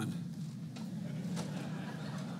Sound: laughter

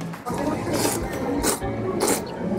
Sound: slurps

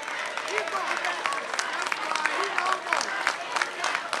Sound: applause

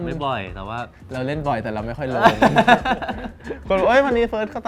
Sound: laughs

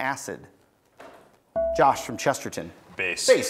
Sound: buzzer beeps

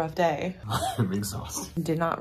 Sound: laughing

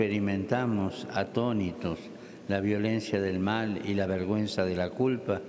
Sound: speaking Alternate Language

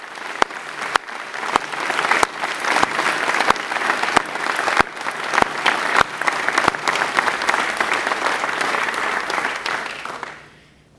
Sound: applause

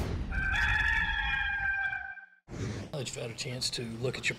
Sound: rooster noise

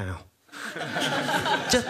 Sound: laughing

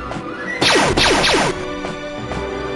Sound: blaster fire

